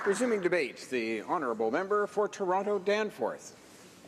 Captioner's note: some Applause